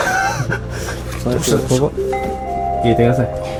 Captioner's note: laughter